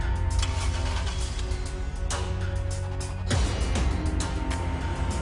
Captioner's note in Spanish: Ruido del motor